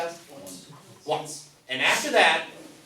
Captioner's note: voiceover